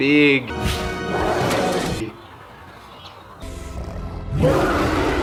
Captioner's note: King Kong roaring